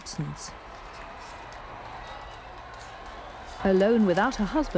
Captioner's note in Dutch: publiek juicht